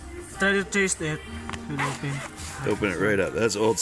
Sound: zipping

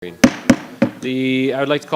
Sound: gavel banging

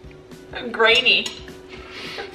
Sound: laughs

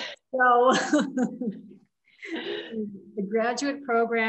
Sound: laughs

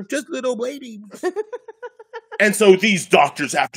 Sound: laughing

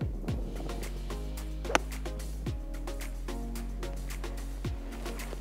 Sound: golf club wack

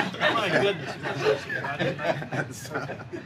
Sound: laughter

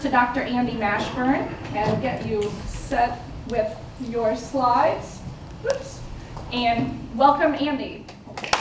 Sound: applause

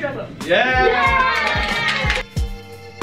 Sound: claps

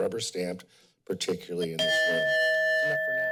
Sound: timer dings

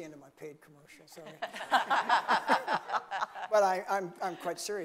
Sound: laughing

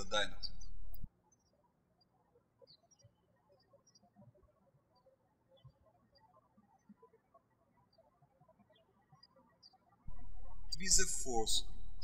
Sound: birds chirping

